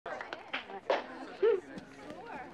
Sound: people indistinctly chatting

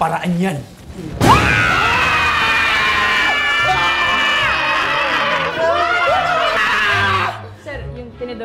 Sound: everyone screams

